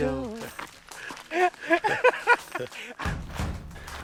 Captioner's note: laughing